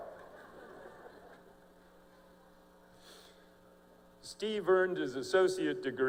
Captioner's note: laughter